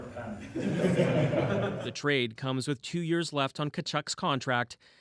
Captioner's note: laughter